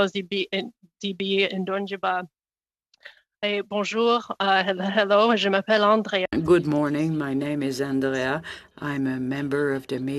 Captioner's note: speaking indigenous language